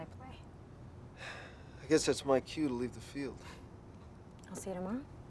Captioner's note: sighs